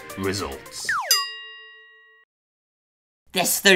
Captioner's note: bell ring